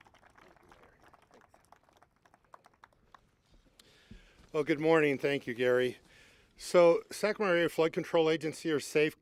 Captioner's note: applause